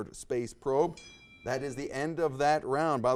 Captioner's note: bell rings